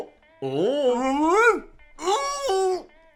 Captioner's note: yelps; groans